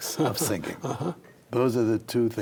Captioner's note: laughs